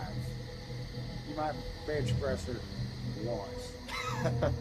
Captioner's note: laughs